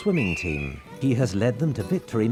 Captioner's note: whistle tooting